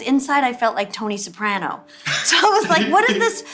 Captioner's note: laughing